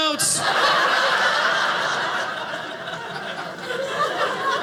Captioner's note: audience laughing